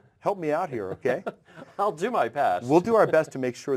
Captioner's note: laugh